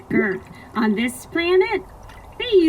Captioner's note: none